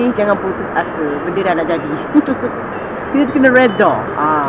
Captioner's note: laugh